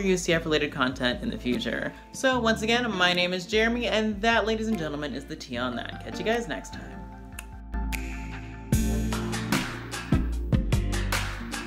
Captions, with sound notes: UCF related content in the future. So once again, my name is Jeremy, and that ladies and gentlemen is The Tea on that. Catch you guys next time. (clicks) (slow synthesized music)